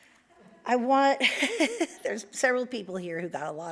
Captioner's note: laughs